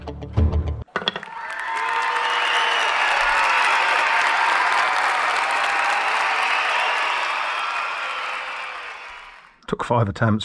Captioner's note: crowd cheer